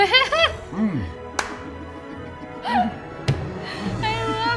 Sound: laugh

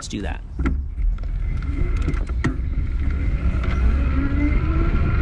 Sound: bike motor whirring

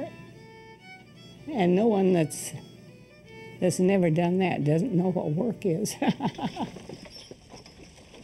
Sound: laughing

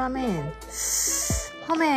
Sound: sound effects

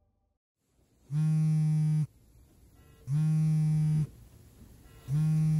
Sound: cell phone buzzing

